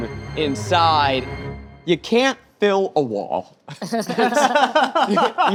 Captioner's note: laughs